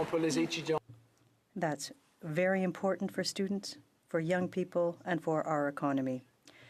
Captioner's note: applause